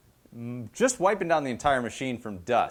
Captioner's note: none